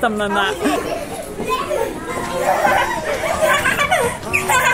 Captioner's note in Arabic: أطفال يضحكون